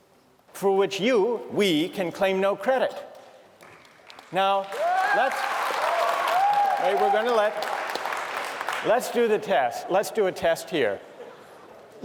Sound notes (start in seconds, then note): 3.7 cheering, clapping